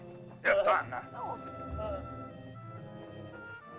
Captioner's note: Akhoba angrily speaks in caveman language; soft dramatic music